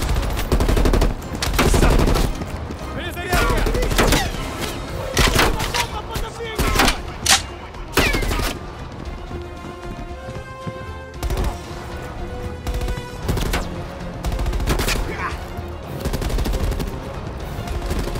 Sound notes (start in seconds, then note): 0.0 gunshots; 5.0 gunshots; 7.9 gunshots; 10.2 dramatic music